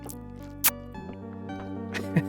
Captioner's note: mwah